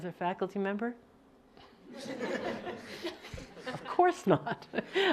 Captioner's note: laughing